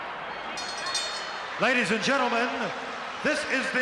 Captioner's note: bell rings